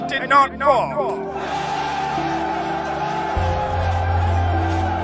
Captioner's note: people cheering